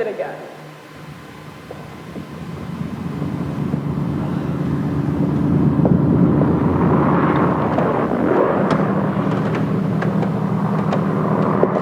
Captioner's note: large WWII aircraft sounds